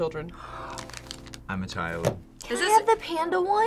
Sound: gasps

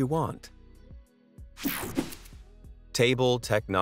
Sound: air whooshing

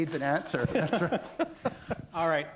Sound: laughter

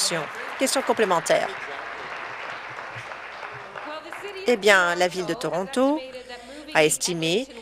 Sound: applause

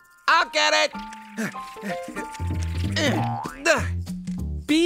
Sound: grunt of effort; panting

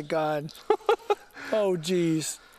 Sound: laughter

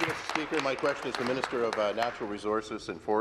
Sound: applause

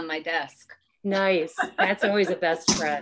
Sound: laughs

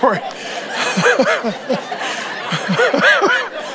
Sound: laughs

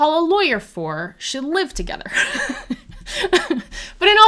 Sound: laughs

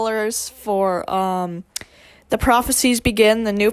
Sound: lip smacc

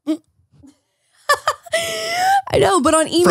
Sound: laughing

